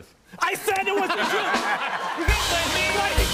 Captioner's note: laughter and applause